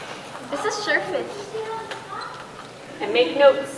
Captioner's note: indistinct chatter